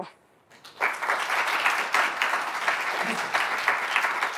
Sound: audience applauds

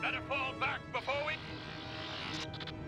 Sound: static

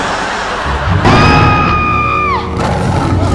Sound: screaming; roaring

